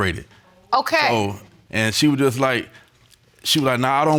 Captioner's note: none